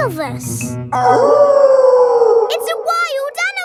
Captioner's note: wolf howling loudly